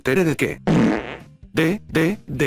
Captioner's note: flatulence sound